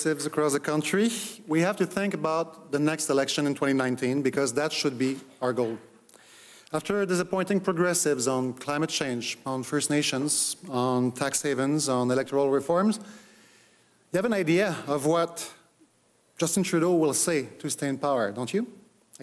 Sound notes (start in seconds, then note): none